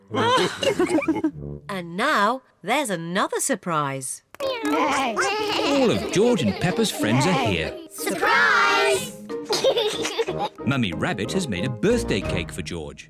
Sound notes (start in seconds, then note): 0.2 all laugh; 4.4 all making animal sounds; 9.5 laughs